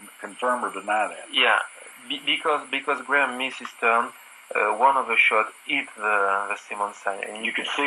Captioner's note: French accent